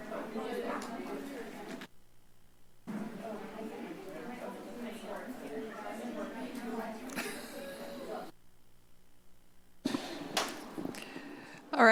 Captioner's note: indistinct background chatter